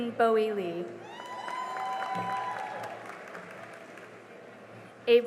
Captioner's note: cheering and applause